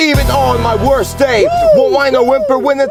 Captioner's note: whoo!